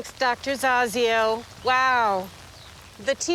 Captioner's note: rain pattering